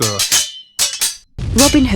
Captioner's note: Elara speaking loudly, spreading rumors